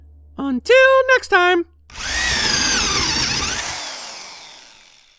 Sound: drill sound

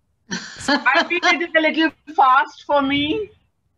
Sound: laughter

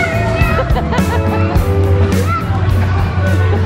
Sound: laughter

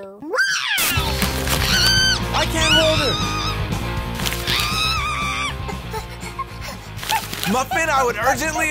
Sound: Muffin screams

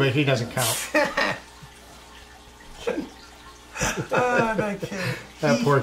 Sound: laughing

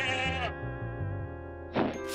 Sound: bleating

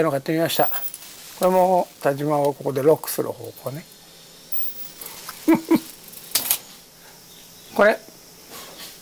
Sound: laughs

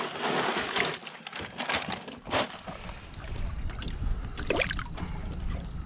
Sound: plastic bag rustling; ice settling; fish splashing

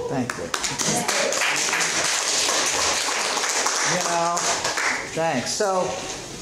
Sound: students applauding

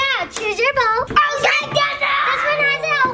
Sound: screaming

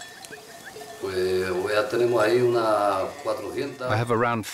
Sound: he speaks Spanish

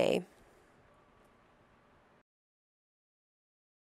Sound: pause

